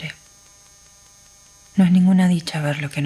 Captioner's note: static